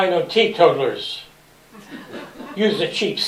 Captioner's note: laughter